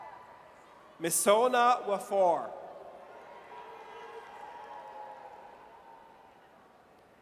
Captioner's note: audience cheers